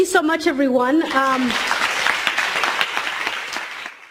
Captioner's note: applause